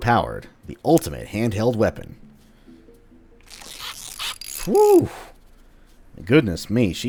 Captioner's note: tinkering noises